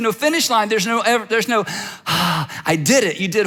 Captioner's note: sighs